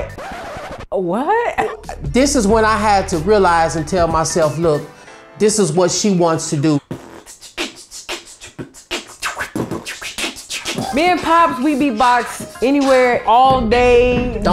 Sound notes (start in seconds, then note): 0.0 record screech; 6.8 beatboxing